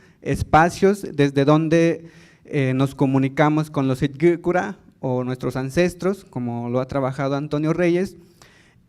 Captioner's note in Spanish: habla en lengua indígena